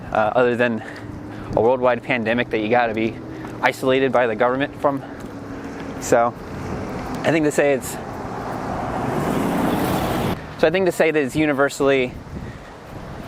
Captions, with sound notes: other than, a worldwide pandemic that you gotta be isolated by the government from Which I think to say its-- - [truck drives by] Which I think to say its universally